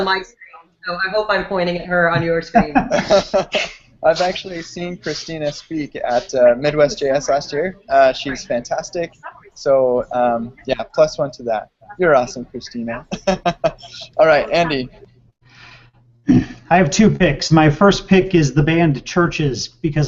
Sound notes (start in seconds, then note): 2.4 laughter; 12.9 laughs